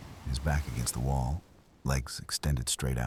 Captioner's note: wind Blowing